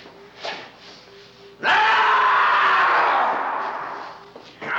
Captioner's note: screaming